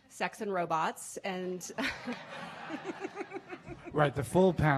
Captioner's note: laughing